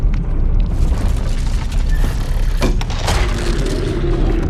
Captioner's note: rumbling and cracking